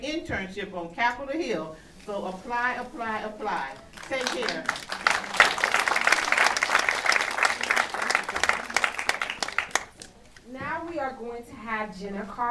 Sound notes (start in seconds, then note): 3.7 applause